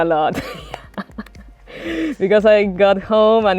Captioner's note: chuckles